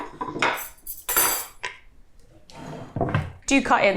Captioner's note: cutlery clattering